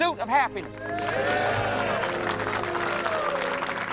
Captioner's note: applause